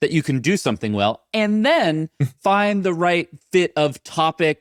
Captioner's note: chuckling